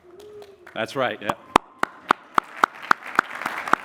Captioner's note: applause